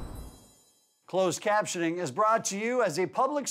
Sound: voiceover

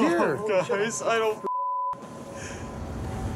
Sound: beeps

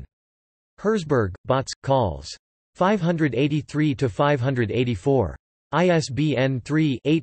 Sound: in German

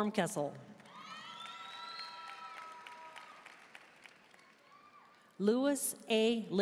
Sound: audience cheering and applauding

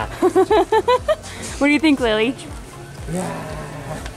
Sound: laughing

